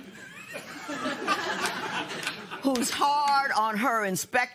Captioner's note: laughter